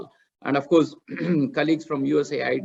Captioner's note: clears throat